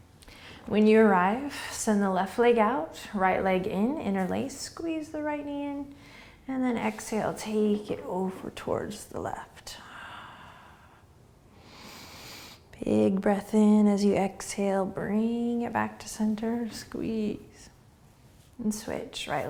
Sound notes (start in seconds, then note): 10.0 exhaling; 11.6 inhaling